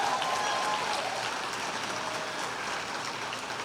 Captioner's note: applause